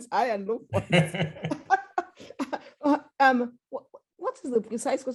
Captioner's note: laughter